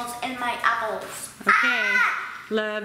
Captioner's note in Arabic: صراخ